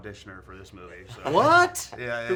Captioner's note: laughing